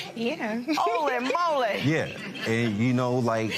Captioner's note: laughs